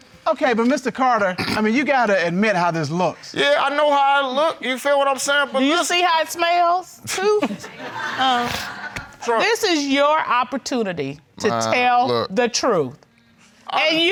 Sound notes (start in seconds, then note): 8.6 scoffs